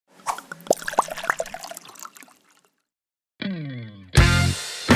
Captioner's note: pouring liquid into glass; upbeat music